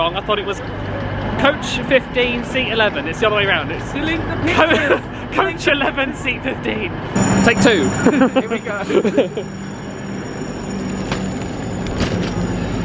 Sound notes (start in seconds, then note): 4.3 laughs